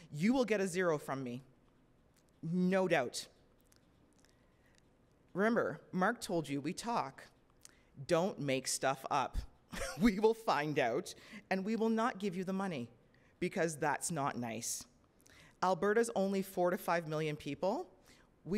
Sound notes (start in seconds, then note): 9.7 chuckles